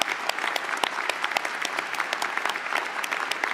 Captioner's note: applause